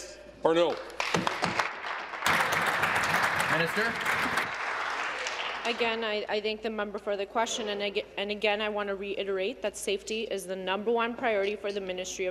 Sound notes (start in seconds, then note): 6.4 applause